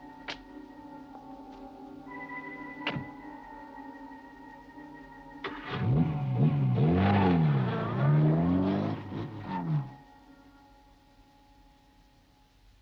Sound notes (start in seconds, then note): 0.3 car door clicks; 2.8 car door bangs; 5.4 car engine revving